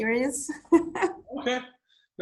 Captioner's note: laughs